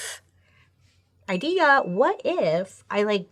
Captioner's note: bell dings